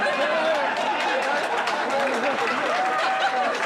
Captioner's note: crowd cheering and applauding